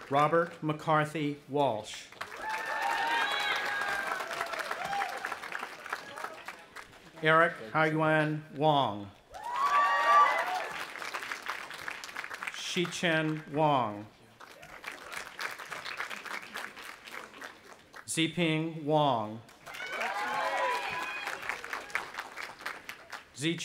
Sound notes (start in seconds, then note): 2.1 audience applauding and cheering; 9.3 audience applauding and cheering; 14.3 audience applauding; 19.6 cheering